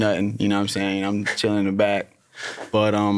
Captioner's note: chuckles